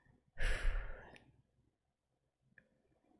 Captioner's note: breathes out